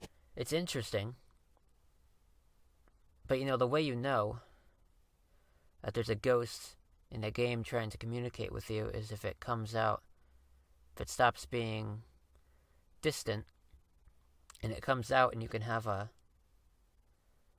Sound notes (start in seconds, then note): none